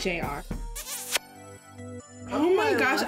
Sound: kissing noise

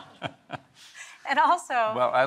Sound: laughs

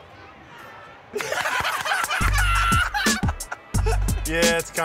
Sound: laughter

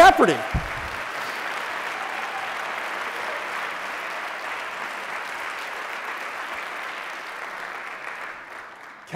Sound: audience: Clapping

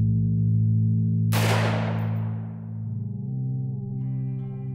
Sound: rifle fire

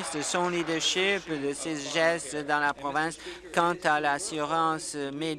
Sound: applause

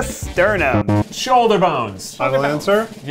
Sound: beeping sound

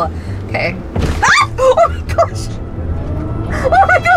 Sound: woman screams

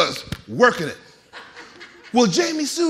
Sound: audience laughing

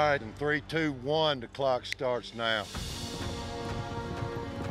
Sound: snaps finger

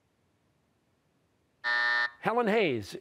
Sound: buzzer

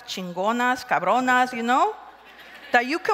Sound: crowd laughs

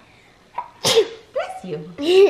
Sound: sneezes

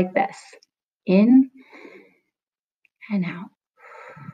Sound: breathing

